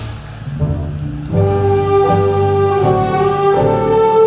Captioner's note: none